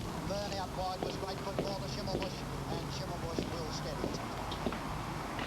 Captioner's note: horse racing playing on radio